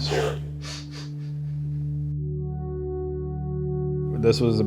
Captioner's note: giggles